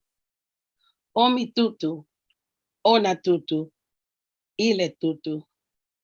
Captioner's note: speaking in foreign language